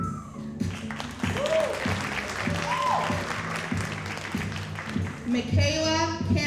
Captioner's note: audience cheering and applauding